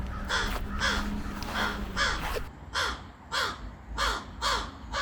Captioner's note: crow sounds